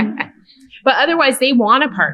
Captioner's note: laughter